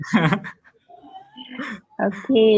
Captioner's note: laughter